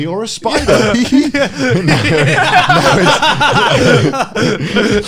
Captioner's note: laughing loudly